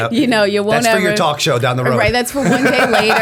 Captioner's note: laughter